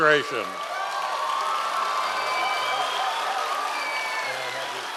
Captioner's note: audience applause